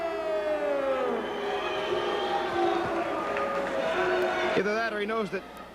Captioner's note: crowd cheering